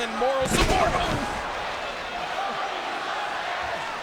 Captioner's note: bodies thud